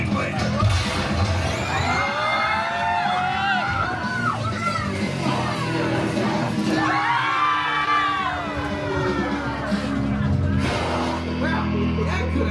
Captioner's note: guests screaming and laughing